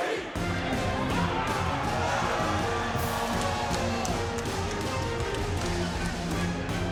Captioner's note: crowd cheering; upbeat orchestra music